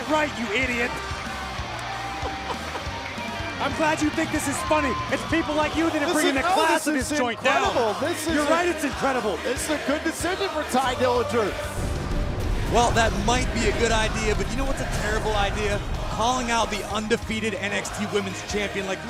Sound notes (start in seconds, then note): 2.1 laughter